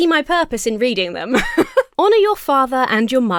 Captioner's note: laughs